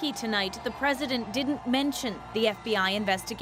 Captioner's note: cheers and Applause